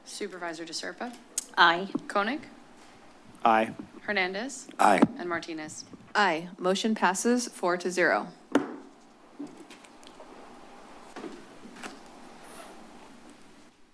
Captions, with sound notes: - Supervisor De Serpa? - Aye. - Koenig? - Aye. - Hernandez? - Aye. - And Martinez? - Aye. Motion passes four to zero. [gavel tap] [pause]